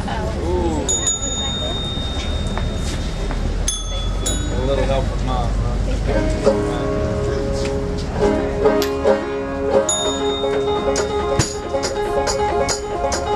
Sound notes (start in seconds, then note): 4.0 bell chiming